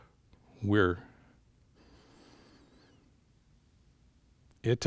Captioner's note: breathes in